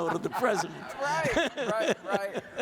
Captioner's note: audience laughs